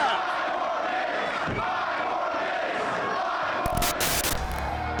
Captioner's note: crowd cheering; upbeat music